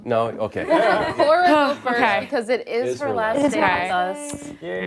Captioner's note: laughter